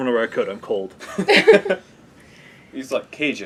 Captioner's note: laugh